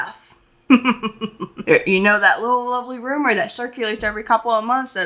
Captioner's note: chuckling